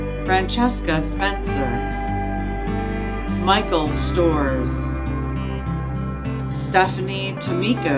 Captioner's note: none